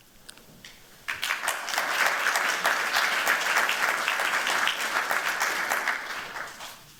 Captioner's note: applause